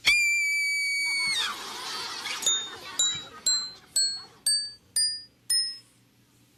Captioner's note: screams